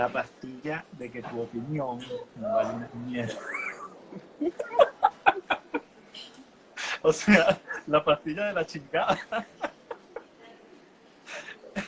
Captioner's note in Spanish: Risas